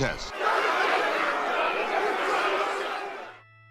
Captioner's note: crowd Noise